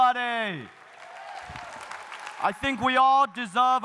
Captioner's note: audience cheering